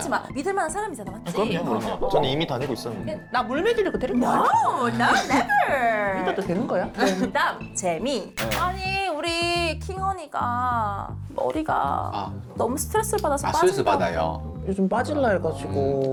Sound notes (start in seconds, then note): 1.6 hardworking sound effect